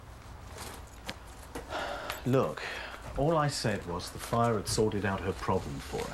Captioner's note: sighs